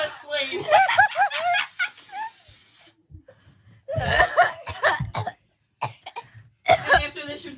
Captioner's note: laugh; cough